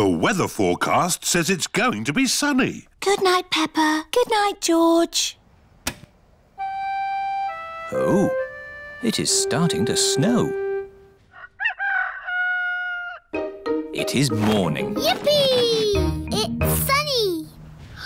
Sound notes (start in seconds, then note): 11.3 rooster crowing